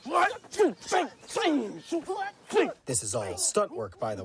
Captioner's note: fighters grunting